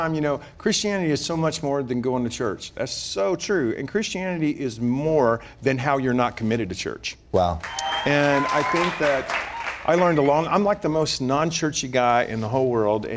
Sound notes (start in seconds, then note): 7.6 applause